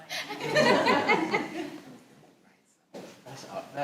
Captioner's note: all laughing